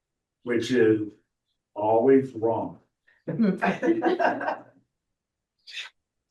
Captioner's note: laughter